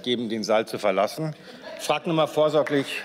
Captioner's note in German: Beifall